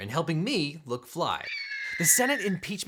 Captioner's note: eagle crying